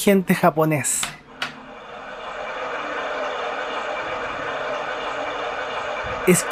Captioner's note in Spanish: Botón de privacidad del inodoro inteligente japonés, sonido de cascada